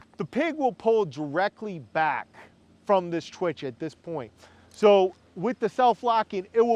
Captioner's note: none